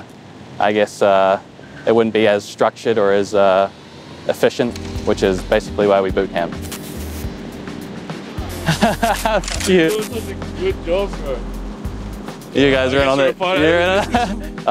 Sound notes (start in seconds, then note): 8.5 laughing